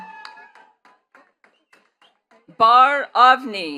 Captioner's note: attendees cheering and clapping